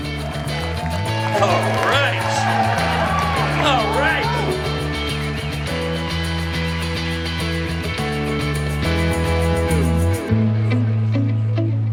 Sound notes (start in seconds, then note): 1.8 audience cheers and claps